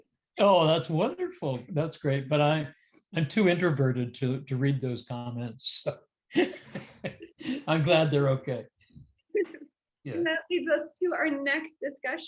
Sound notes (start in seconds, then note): 6.4 laughs